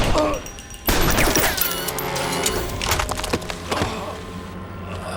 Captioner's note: gunshots blasting; Chuck groaning